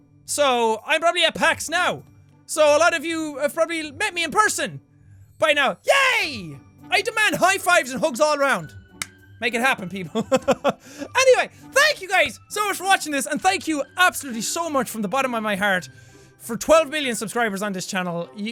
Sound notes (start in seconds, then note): 9.0 claps; 10.1 laughs